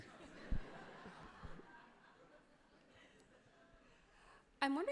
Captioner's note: crowd laughs happily